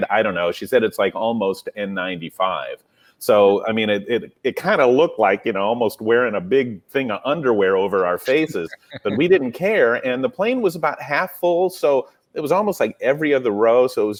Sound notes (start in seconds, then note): 8.2 laughs